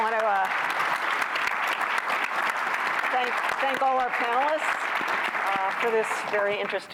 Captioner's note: applause